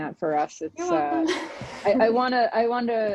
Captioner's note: laughs